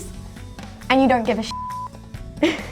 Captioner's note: beep